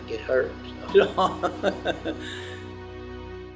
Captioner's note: laughs